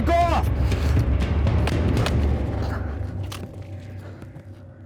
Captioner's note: gun shooting